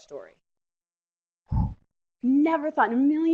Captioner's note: sharp exhale